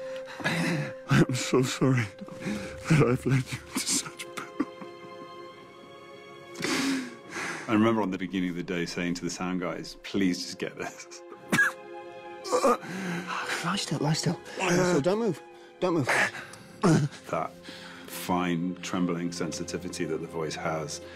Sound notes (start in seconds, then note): 12.5 gasping